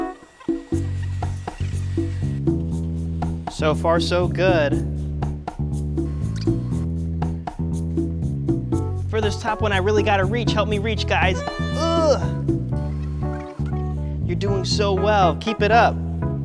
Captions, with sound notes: (sped up voice squeaks) So far so good. (sped up voice squeaks) For this top one, I really gotta reach. Help me reach, guys. (Pipsy grunts playfully) (sped up voice squeaks) You're doing so well, keep it up.